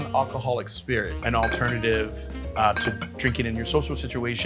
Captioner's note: bottles clanging